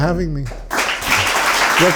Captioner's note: audience applauds